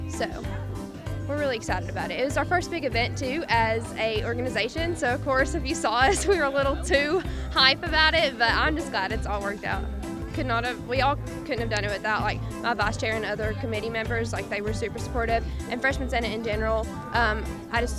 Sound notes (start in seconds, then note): 6.0 laughs